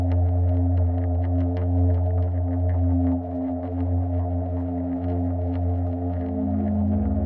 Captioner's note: gentle music continues; wind whistling continues